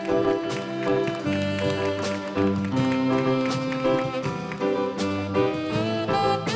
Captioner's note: audience applauding